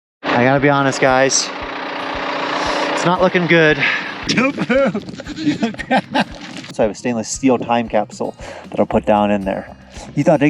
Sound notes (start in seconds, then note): 3.8 goat bleats